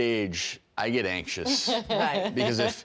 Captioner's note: laughing